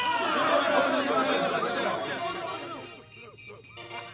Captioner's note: indistinct chatter